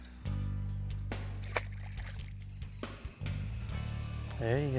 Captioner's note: upbeat music; water splashes